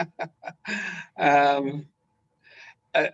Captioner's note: laughing